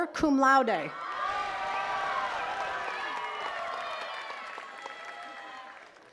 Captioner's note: attendees cheering and clapping